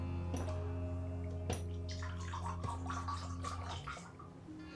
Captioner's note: liquor splashing